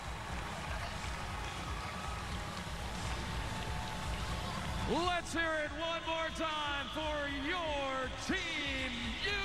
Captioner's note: cheers and applause